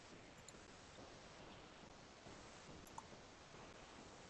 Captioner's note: computer mouse clicking